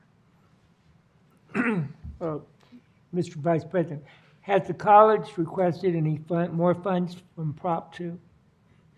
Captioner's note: clears throat